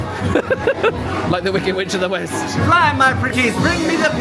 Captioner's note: laughs